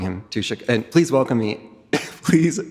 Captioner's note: chuckles